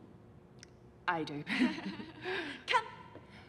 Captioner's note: laughs